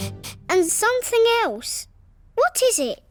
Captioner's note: sniffs